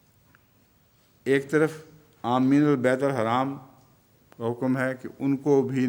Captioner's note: Arabic